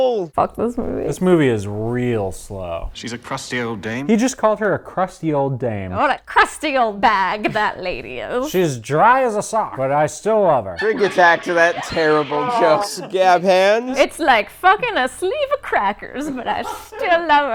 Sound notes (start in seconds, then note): 6.0 old-timey accent; 10.8 laughter, groans; 13.8 old-timey accent